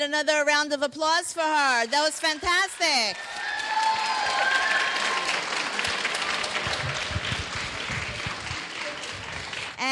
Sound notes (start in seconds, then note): 4.6 cheering; 4.6 clapping